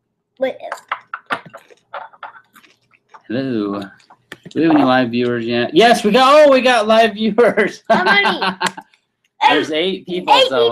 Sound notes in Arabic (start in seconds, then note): 7.6 يضحك